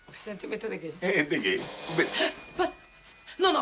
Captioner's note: doorbell}